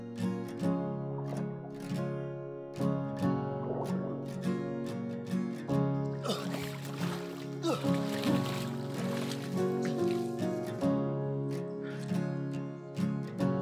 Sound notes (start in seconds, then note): 6.2 splashing; 10.7 panting